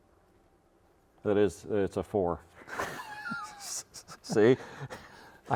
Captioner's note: both laughing